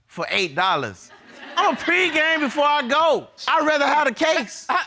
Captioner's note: audience laughing